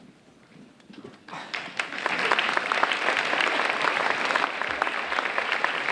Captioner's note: audience applauding